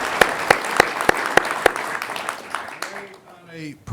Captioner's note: applause